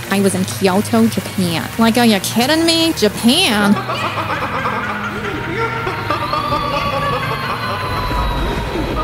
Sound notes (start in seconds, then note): 3.4 witch cackling; 5.4 screaming